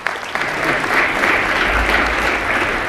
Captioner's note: applause